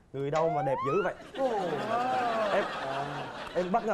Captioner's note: laughing